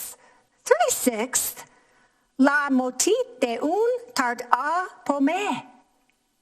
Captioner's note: speaking in foreign language